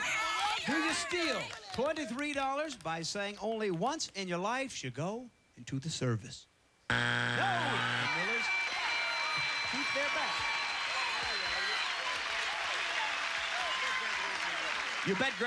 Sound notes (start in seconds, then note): 6.9 buzzer; 10.3 cheers and applause